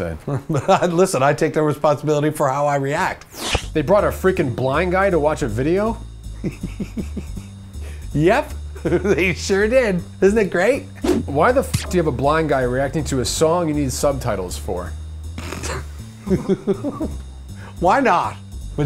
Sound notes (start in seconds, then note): 6.4 snickering; 16.2 snorts, chuckles